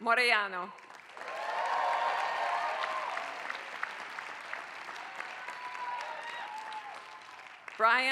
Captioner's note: applause